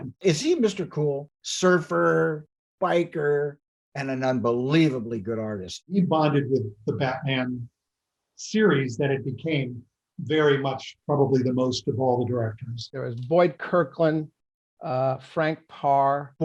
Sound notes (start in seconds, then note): none